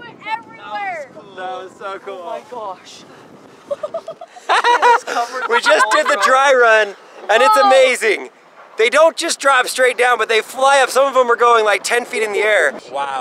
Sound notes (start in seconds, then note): 3.6 laughing